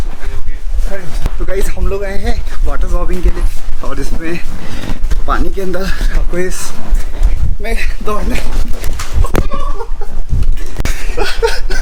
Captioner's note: excited Screams; laughing